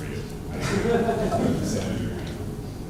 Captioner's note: laughter